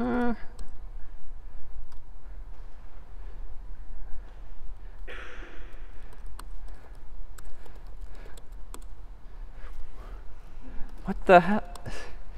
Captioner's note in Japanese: キーのクリック音